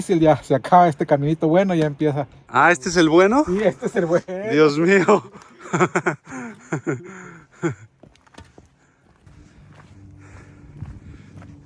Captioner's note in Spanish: risas